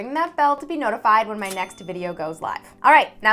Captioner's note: bell ringing